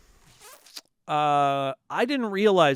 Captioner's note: zipping